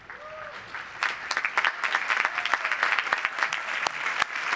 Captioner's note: audience applauds